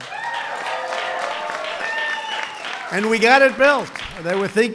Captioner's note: applause